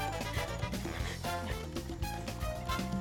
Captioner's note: panting